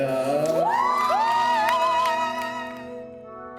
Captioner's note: cheers